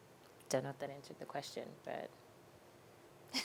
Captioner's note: giggling